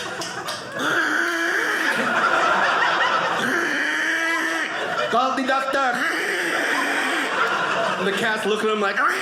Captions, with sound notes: (gagging) "Call the doctor." (gagging) The cat looked at him like,